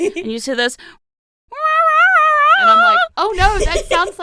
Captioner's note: yowling cat sounds